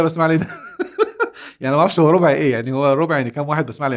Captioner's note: laughs!